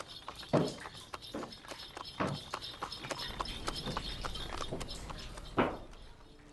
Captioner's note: horse-drawn carriage passing